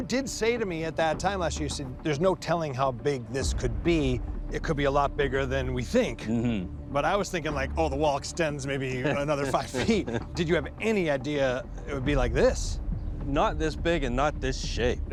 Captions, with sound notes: at that time last year, you said, "There's no telling how big this could be. -It could be a lot bigger than we think." -Mm-hmm. But I was thinking, like, oh, the wall extends -maybe another five feet. -(chuckling) Did you have any idea it would be like this? Not this big and not this shape.